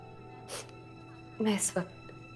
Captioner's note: Sniffs